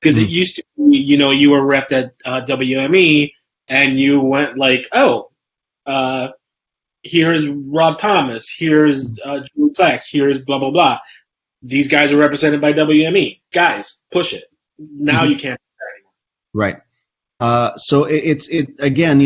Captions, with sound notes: 'cause it used to be you were repped at WME, and you went like "Oh, "here's Rob Thomas, here's (mic warbles), "here's blah blah blah, "these guys are represented by WME. "Guys, push it." Now you can't do that anymore. - Right. So, again,